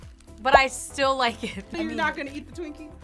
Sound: laughs

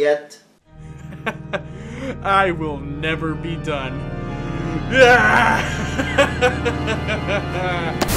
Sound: evil laughter

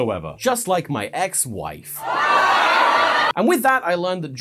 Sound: studio laughter

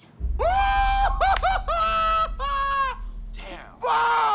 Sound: Trixie wails

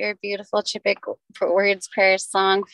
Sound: speaking native language

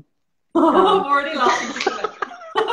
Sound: laughing; laughter

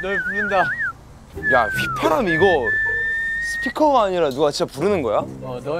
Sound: whistle

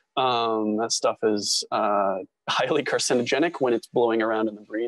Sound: chuckle

